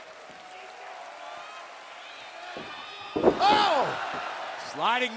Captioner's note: crowd cheering